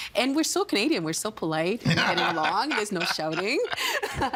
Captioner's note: laughing